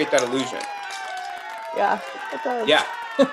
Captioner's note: applause